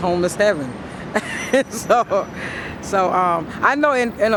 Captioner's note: laughs